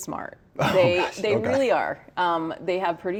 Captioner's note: chuckles